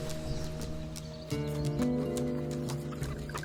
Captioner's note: chickens noise